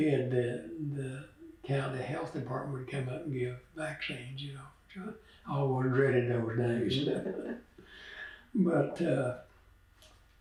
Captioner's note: laughs